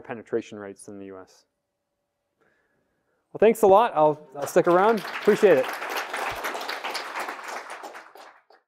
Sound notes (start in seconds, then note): 4.3 applause